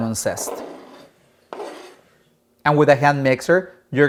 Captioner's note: knife scrapes cutting board